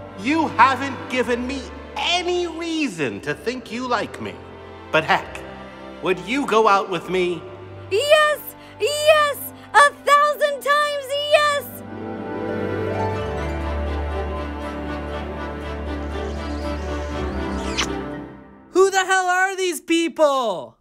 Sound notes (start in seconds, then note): 11.7 music swells; 15.9 smooching